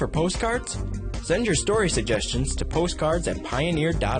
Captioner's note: upbeat music; voiceover